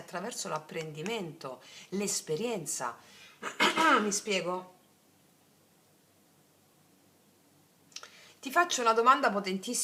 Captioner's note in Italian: schiarire la voce